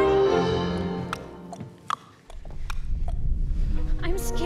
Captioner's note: tick-tock, tick-tock, tick-tock